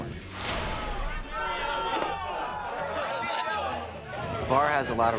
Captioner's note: crowd shouting and chattering